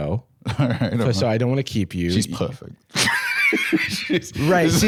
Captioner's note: laughs